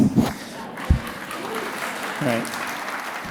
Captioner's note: audience laughing and applauding